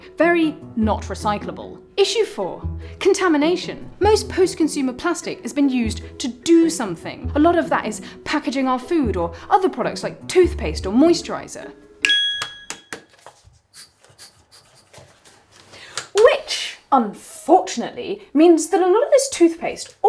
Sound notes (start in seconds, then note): 12.0 ding; 12.1 snaps